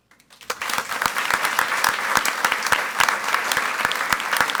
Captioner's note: audience applauds